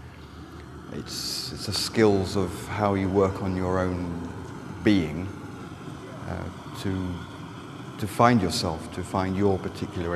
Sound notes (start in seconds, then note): none